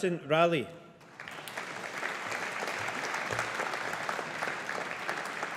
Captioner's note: audience applauding